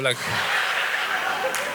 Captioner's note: audience applause